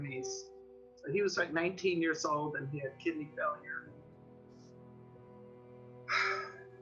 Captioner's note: sighs